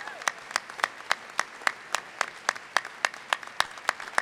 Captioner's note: applause